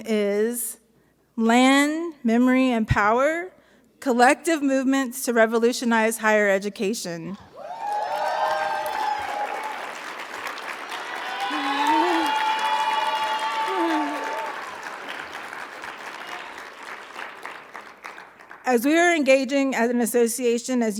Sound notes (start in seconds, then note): 7.6 audience cheering; 7.6 audience applauding